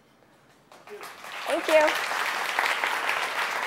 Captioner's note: applause